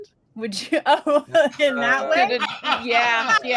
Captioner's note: group laughing; chuckles